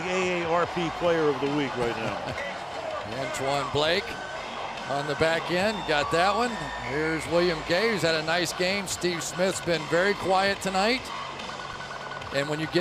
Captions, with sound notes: Harrison is the AARP player of the week right now. [laughs] Antoine Blake on the back end. He got that one. Here's William Gay, who's had a nice game. Steve Smith's been very quiet tonight.